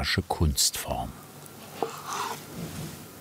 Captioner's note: cutting sounds